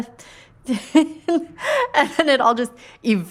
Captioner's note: laughing